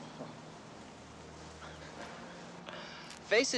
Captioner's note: Captain laughing